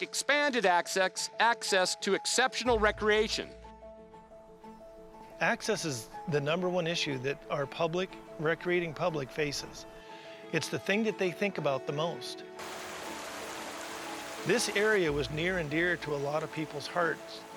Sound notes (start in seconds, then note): 12.6 waterfall rushing